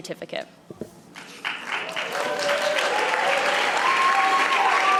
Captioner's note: audience applauding